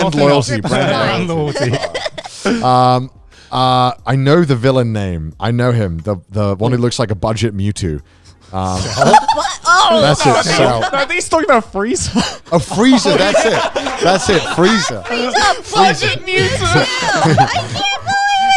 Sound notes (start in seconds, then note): 8.7 laughing; 14.2 everyone laughing